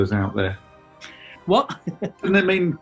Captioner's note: chuckling